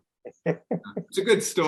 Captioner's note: laughing